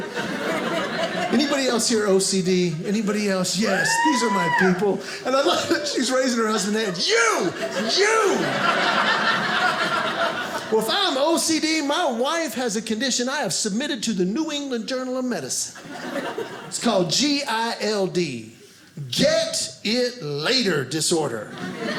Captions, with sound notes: (audience laughing) Anybody else here OCD? Anybody else? Yes! These are my people. And I love it. She's raising her husband's hand. "You! You!" (audience laughing) Well, if I'm OCD, my wife has a condition I have submitted to the New England Journal of Medicine. It's called G-I-L-D. Get It Later Disorder.